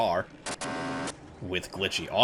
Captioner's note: disproportionately loud engine revving